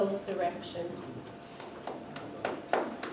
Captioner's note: clapping